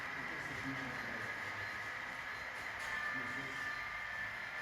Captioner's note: crossing warning with bells and horns starts